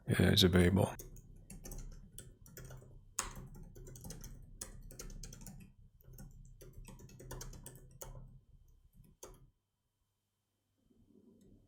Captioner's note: silence